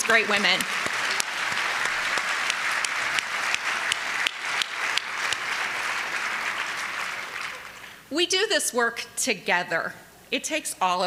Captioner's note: applause